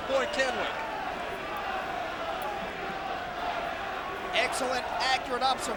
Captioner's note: crowd chattering